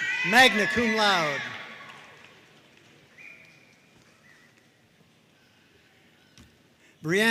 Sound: audience cheering and applauding

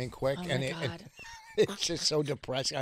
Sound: laughing

